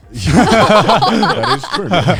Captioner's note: everyone laughing